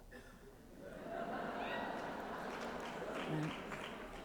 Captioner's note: laughter